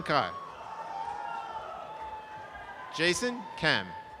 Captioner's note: audience applause